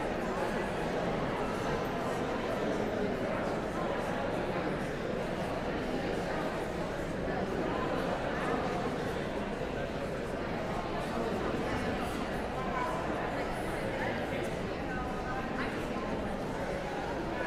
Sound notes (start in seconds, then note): 5.4 audience chattering continues